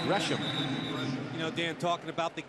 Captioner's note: pa announcement